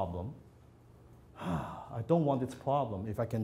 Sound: sighs

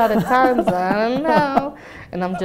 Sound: laughs

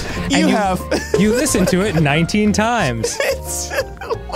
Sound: laughing

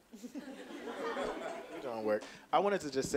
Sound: audience laughing

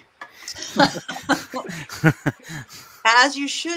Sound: both laughing

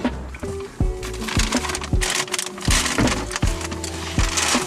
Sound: bag crinkling

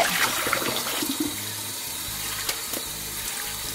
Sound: tap runs

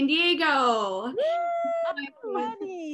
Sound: cheering

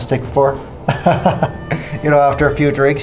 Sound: chuckles

